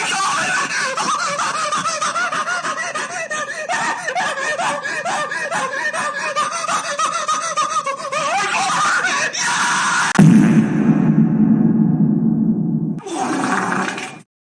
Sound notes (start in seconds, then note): 10.2 reverb fart sfx; 13.0 brap